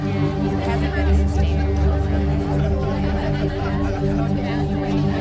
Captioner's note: people chattering loudly